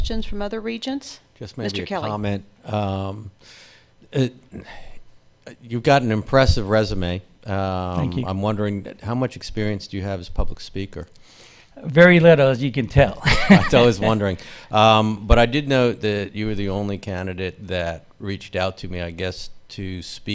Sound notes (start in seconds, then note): 13.2 laughs